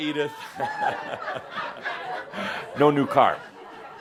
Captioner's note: more laughter